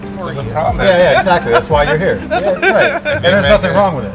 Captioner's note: laughter